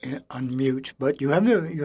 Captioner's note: speaking French